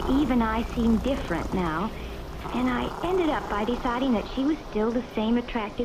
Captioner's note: growling/purring